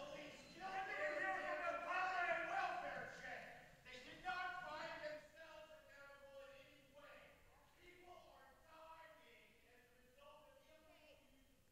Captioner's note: yelling